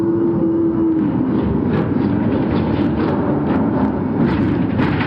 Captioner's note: engine revving